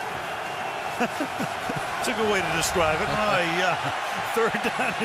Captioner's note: laughs